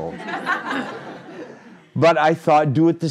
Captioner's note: crowd laughing